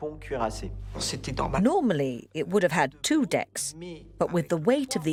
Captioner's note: voiceover